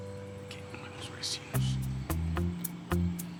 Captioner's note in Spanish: Voz baja